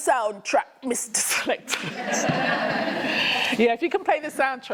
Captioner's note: laughter